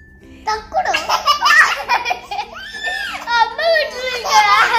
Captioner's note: laughing